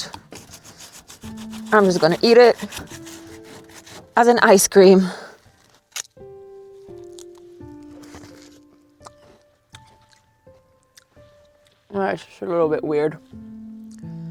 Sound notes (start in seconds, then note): 6.3 chewing loudly; 6.3 soft music